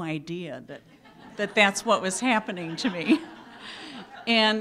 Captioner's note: laughing